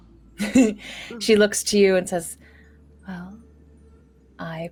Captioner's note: laughs